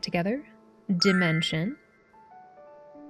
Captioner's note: sparkle sound